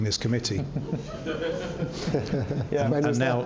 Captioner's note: laughter